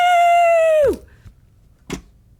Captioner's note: muffled thud